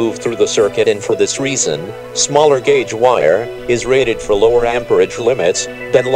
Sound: electric current

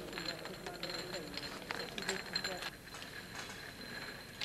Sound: people chattering; ladder rattling

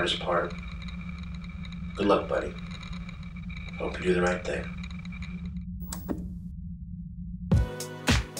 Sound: click

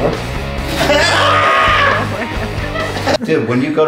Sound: Hila and Isaac laughing

